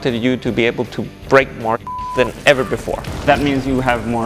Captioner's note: beep